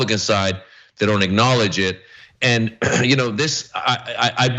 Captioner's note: cough